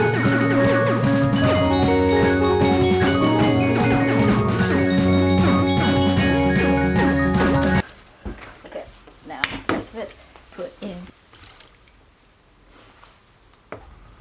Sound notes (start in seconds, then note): 8.1 music stops; 11.2 oil splashing